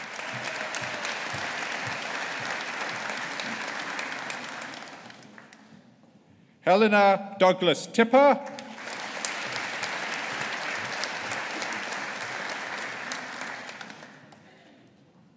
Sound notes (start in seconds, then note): 0.0 audience applauding; 8.5 audience applauding